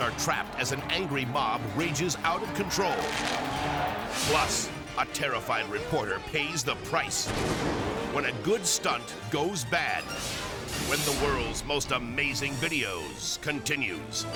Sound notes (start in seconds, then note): 2.8 firecrackers crackling; 4.1 screen whooshes; 7.3 explosion booms